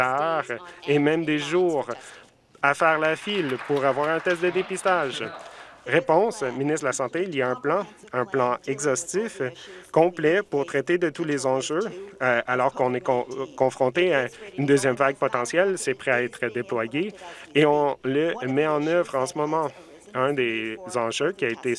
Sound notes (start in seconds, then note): 5.5 some Applause